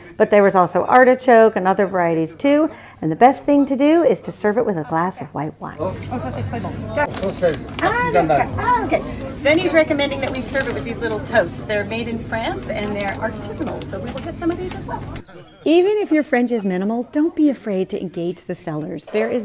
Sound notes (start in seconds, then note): 6.3 speaks French; 7.5 vendor speaks French